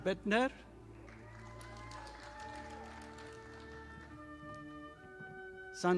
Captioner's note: audience applauding